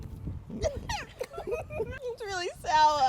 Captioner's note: giggles